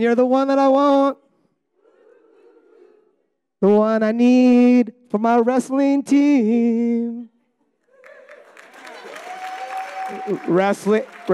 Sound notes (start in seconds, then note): 2.2 audience humming; 8.0 audience applauding